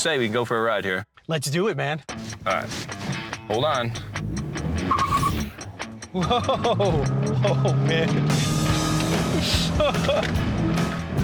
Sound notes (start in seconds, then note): 3.9 tires squealing